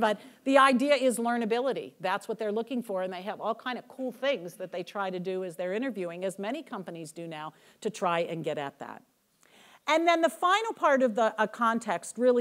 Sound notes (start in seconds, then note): none